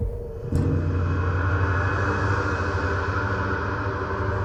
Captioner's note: ghostly sighs